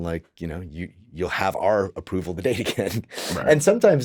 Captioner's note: chuckles